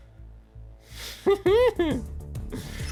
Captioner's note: laughs